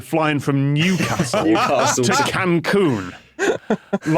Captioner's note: laugh